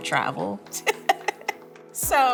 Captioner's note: laughing